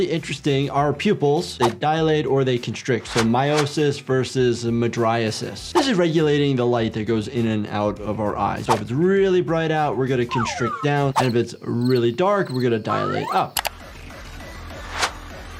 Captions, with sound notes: our pupils, they dilate, or they constrict, so miosis versus the mydriasis. This is regulating the light that goes in and out of our eyes, so if it's really bright out, we're gonna constrict down, (whistle trilling) and if it's really dark, (crickets chirping) we're gonna dilate up. (whistle trilling) (mouse clicking) (upbeat music)